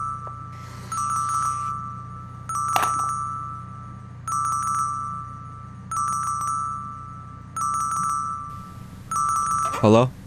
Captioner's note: phone ringing